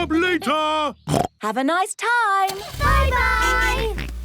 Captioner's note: snorts